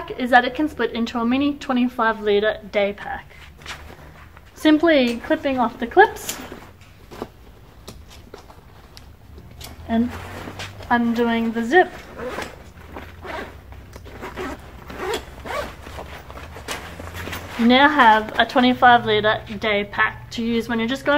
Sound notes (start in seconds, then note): 7.2 rustling; 12.5 zipping